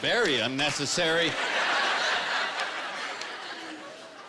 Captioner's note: laughter